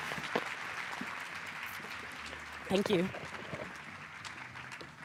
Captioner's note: applause